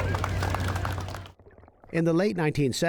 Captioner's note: cheering and applause